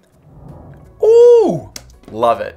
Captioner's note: swooshing